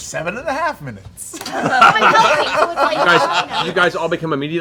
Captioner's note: laughter